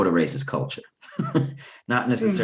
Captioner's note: laughs